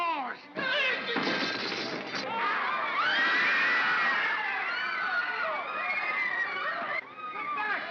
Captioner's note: commotion & screaming; guards yelp